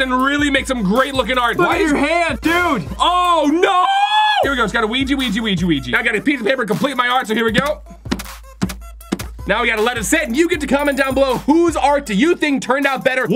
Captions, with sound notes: and really make some great-looking art. - Look at your hands, dude. - Oh, no! Here we go, just gotta weegee, weegee, weegee, weegee. Now I got a piece of paper to complete my art, so here we go. (crackly thumping) Now we gotta let it sit, and you get to comment down below, whose art do you think turned out better?